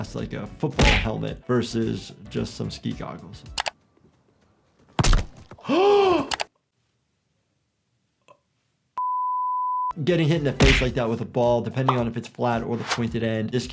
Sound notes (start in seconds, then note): 4.9 ball thuds; 5.6 gasps